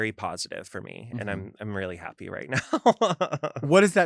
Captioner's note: chuckles